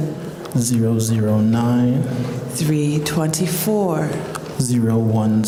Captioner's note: none